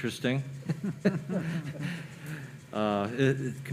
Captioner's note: laughing